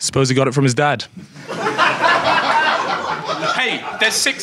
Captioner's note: audience laughs